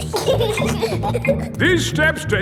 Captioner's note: giggling